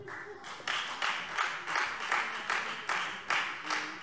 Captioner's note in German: Beifall Freie Demokraten